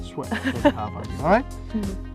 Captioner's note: laughter